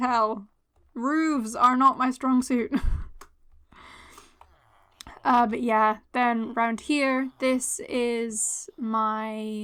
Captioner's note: laughter